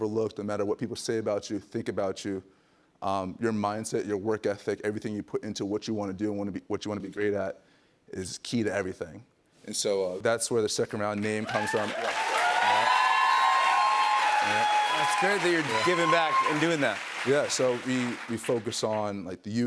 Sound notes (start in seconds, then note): 11.2 cheers and applause